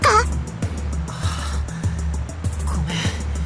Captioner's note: pained breath